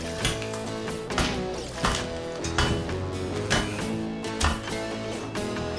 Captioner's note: tap! Tap! Tap! Tap!